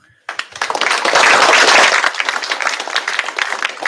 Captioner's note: applause